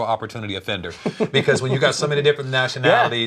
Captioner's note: laughs